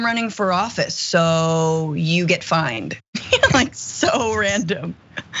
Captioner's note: laugh